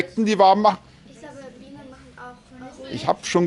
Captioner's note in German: Kindergemurmel